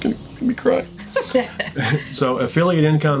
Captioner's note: laughing